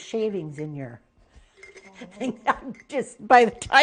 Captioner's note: laughing